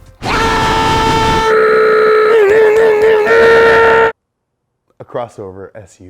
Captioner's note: screaming and grunting